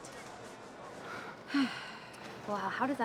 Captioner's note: sighs